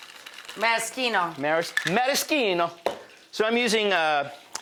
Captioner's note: imitating Italian accent